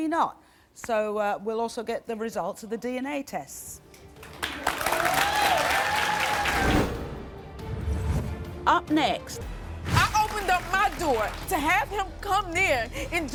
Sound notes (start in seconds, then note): 3.9 deep tense music; 4.2 audience applauding